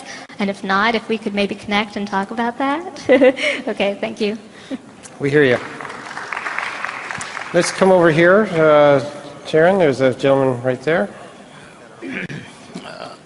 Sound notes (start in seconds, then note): 5.3 applause